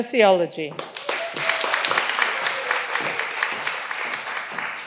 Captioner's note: all applauding